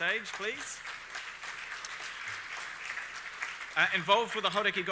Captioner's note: audience applauding